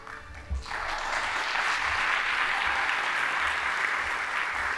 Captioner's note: audience applauding